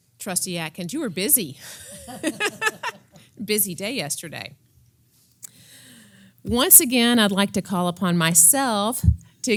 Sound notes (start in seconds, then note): 1.8 laugh